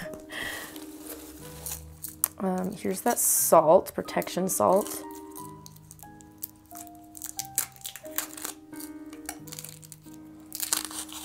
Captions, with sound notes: Here's that salt. Protection salt. [Plastic Rustling]